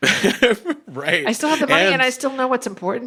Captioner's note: laughs